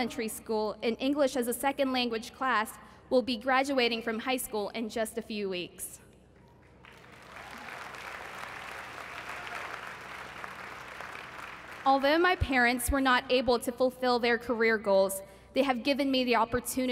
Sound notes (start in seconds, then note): 6.4 applause